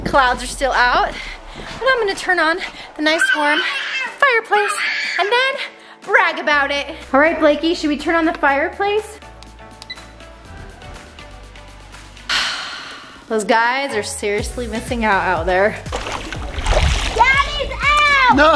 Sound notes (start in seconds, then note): 9.8 beep; 12.3 sigh; 15.8 splash